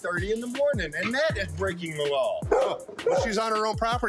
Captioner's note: dog barking